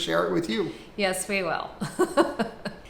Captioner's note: laughs